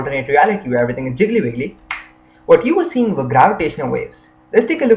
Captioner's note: snaps